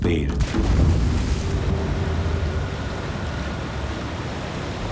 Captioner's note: water splashing